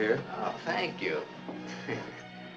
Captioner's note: chuckles